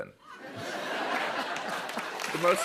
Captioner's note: laughter